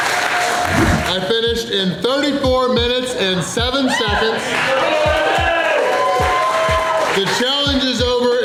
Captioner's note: crowd cheering